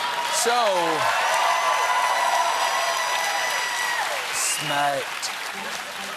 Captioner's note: cheers and applause